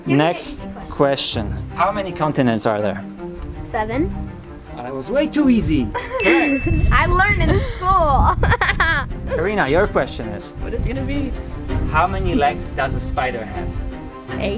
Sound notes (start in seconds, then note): 8.1 laughs